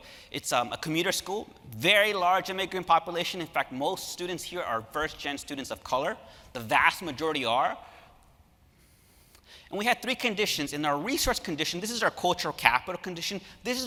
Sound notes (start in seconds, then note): none